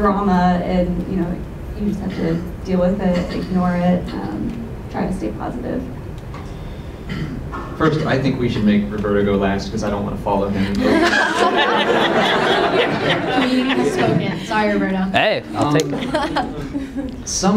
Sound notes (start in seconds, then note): 10.8 laughter